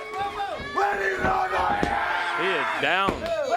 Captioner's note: crowd chatter